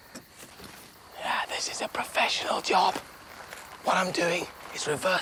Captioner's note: whispering